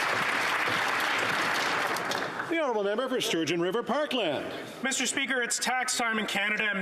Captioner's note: some Applause